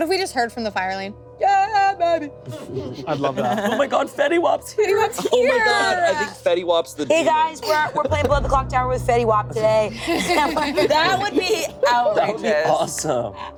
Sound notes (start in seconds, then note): 2.4 group laughing; 9.6 laughing